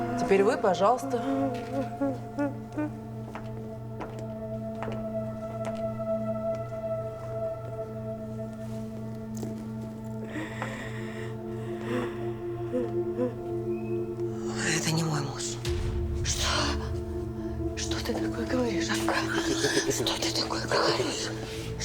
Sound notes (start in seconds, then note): 0.0 weeps; 3.6 tense music